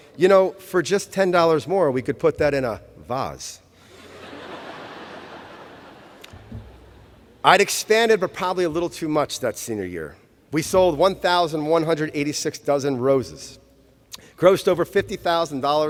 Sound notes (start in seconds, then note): 5.8 laughter